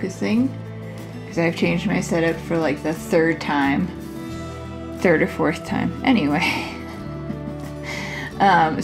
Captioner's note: laugh